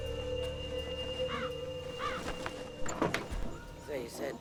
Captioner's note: crow caws